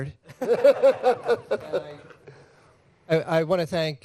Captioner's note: laughter